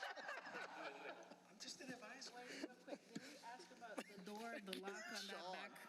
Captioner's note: laughter